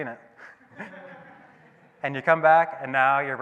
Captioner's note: audience laughing